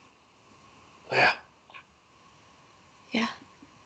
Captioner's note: whispers